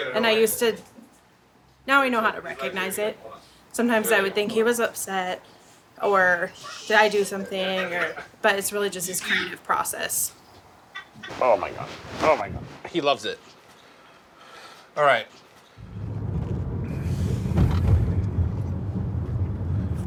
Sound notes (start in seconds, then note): 15.8 engine humming